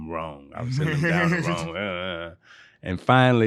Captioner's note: laughing